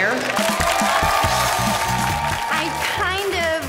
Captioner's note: crowd claps and cheers